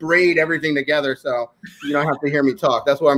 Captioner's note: laughing